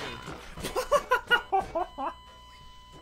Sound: laughter

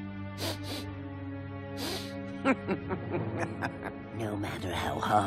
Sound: sniffing

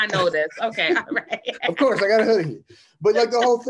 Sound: laughs

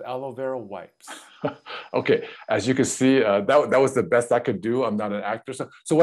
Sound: laughs

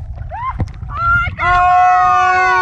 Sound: yells

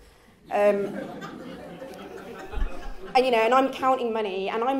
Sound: laughs

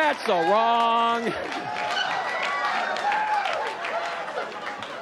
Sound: audience laughs

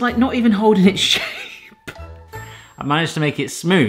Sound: laughing

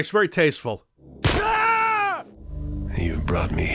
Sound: death scream

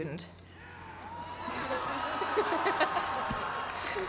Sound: cheering

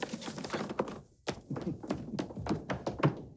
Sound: chuckles

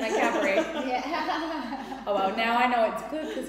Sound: laughing

